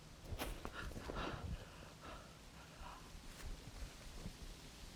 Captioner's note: Arawn panting